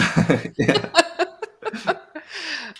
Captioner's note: laughter